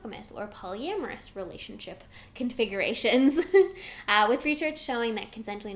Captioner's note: giggles